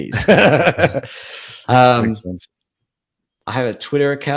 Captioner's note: laughing